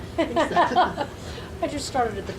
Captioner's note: laughing